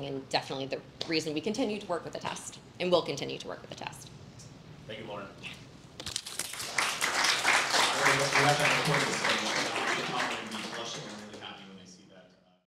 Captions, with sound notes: And definitely the reason we continue to work with Attest and will continue to work with the Attest. - Thank you Lauren. (audience clapping) (indistinct conversation)